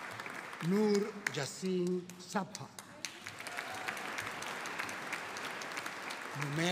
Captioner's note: audience applauding